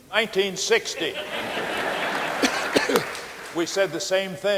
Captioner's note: audience laughing